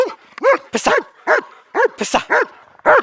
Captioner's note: Talon barks